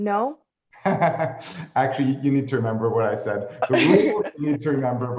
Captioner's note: laughs